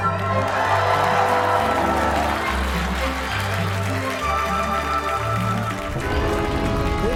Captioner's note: cheers and applause